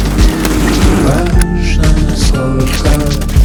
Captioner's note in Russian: тяжелое дыхание, крики